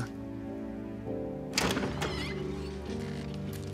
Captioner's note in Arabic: يفتح الباب